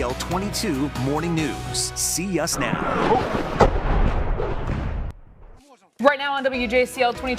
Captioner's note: boming